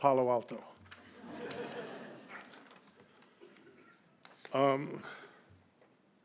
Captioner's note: laughter